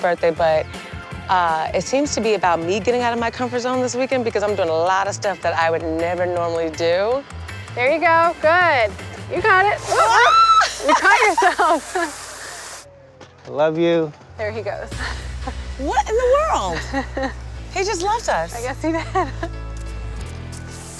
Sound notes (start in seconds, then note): 9.9 screaming